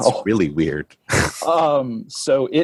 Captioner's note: chuckles